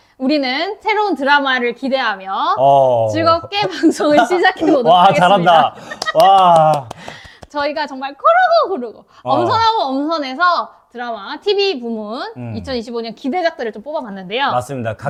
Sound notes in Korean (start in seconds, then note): 5.9 박수